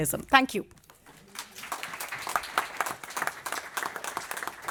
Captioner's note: applause